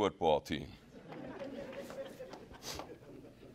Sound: laughing

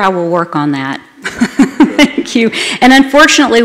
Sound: laughter

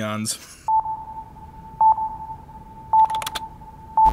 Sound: beeping; keyboard clacking

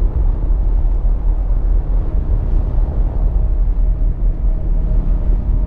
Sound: strong winds continue blowing

